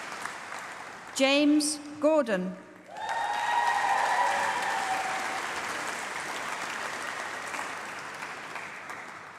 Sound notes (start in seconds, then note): 2.8 applause